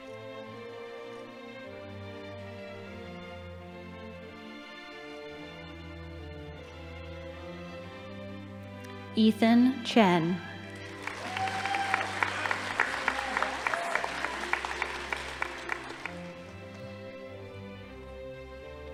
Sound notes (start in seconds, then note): 10.6 audience applauding; 10.7 crowd cheering